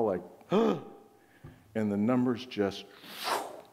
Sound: whooshing

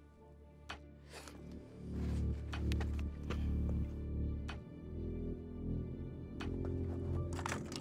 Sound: metal clanking

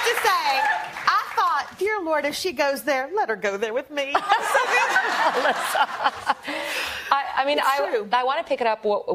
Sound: applause

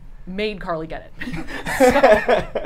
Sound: all laugh

